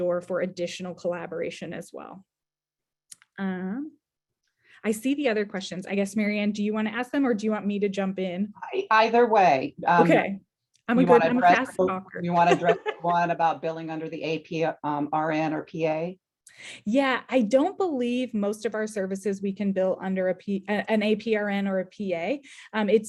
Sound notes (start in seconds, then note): 12.4 chuckling